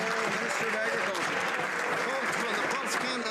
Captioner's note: some Applause